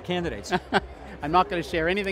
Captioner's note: chuckling